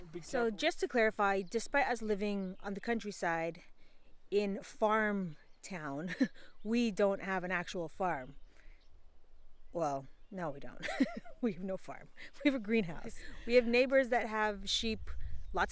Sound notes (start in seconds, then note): 10.8 laughs